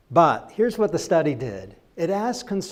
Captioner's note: none